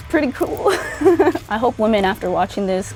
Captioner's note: chuckles